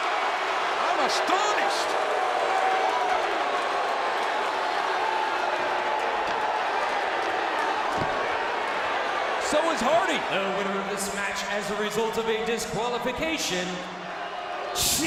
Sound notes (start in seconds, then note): 2.4 crowd boos